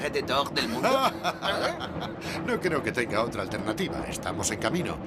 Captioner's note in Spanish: ríe